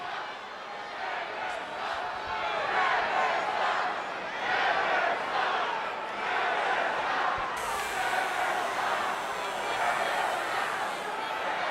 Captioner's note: applause